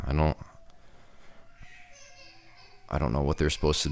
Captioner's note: kids crying